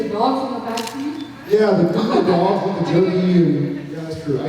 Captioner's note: laughs, inaudible